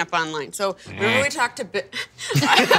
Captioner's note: groaning noise; laughter